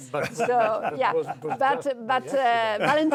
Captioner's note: laughing